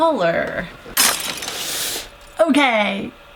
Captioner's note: crash